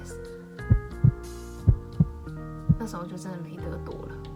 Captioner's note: my heart beat